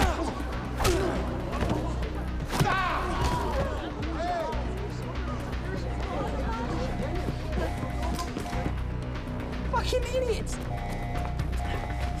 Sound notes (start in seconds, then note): 4.8 alarm blaring